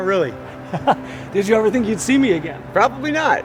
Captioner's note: laughs